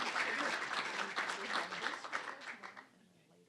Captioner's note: applause